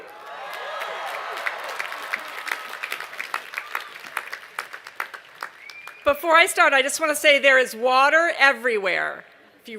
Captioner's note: cheers and applause